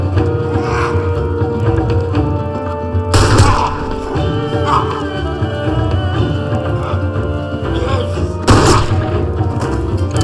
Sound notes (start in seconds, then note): 0.5 growls; 4.4 shouts